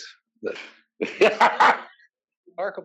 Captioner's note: laugh